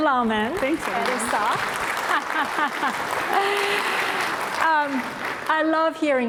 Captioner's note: applause